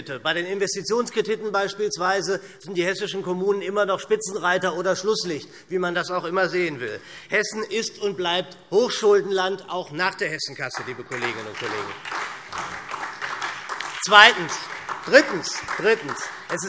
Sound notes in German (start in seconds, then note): 10.6 Beifall SPD